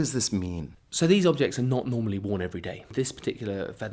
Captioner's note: voiceover